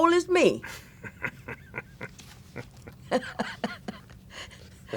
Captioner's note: laughter